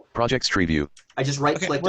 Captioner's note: computer Voice